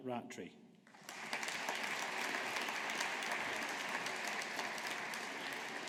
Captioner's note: audience applauding